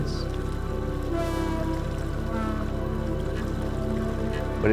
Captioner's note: water pouring